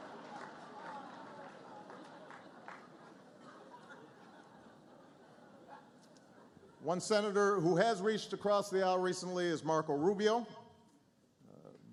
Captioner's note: laughter